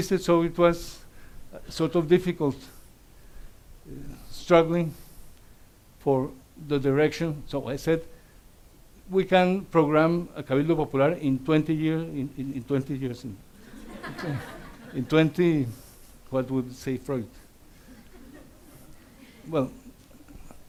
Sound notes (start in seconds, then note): 9.9 speaks Spanish; 13.6 audience laughs